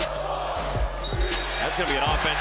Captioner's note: whistling